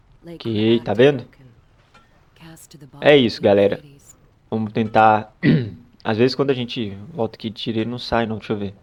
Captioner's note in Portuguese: limpando a garganta